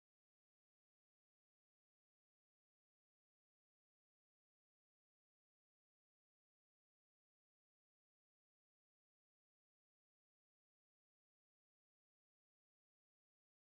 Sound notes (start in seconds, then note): none